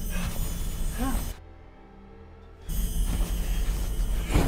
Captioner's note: Mark breathing heavily